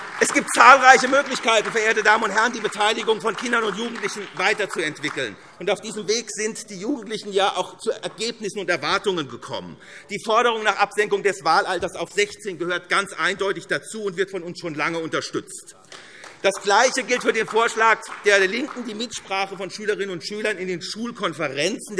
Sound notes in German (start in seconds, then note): 0.0 Beifall SPD und DIE LINKE - Zuruf AfD: Einheitspartei!; 15.8 Beifall SPD